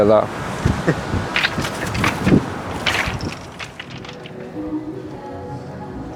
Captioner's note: pebbles rattles under footsteps